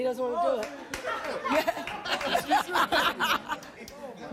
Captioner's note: audience laughing